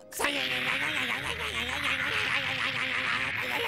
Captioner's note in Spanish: agitado